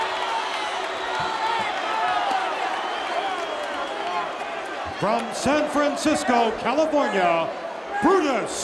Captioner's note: applause